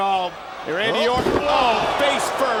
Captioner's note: body thudding